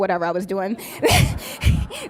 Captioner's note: laughs